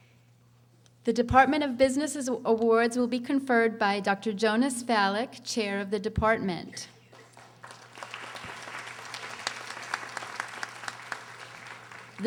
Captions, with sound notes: The Department of Businesses Awards will be conferred by Dr. Jonas Fallock, Chair of the Department. (audience applauding)